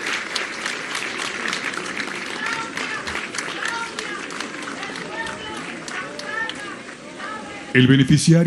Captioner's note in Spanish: aplausos